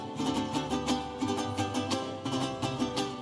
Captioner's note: none